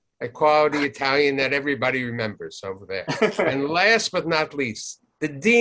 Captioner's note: laughs